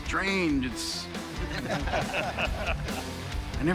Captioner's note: laughter